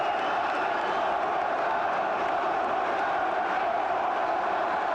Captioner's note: chants "One more time"